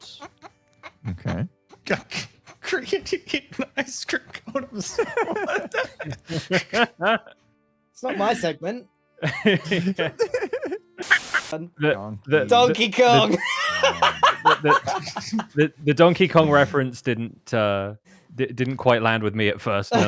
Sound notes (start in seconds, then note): 0.1 snickering; 2.0 still snickering; 6.4 laugh; 11.0 laughs; 12.6 laughs